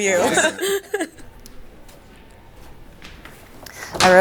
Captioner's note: all laughing